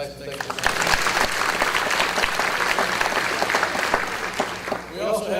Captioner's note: audience applause